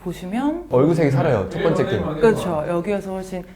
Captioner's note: warn tone